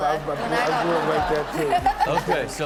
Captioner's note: audience laughs